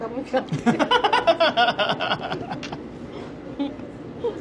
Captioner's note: laughing